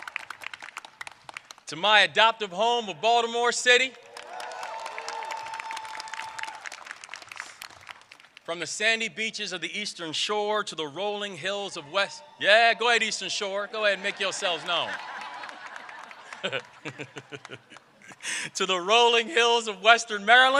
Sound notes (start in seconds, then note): 8.3 applause